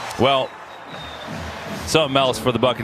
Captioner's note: echoes